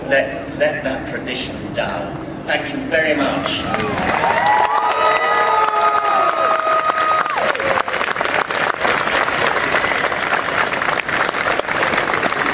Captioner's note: loud applause